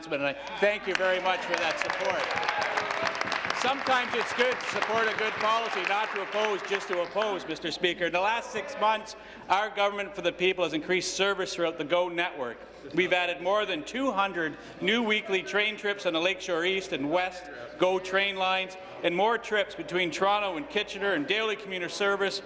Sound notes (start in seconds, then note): 5.8 applause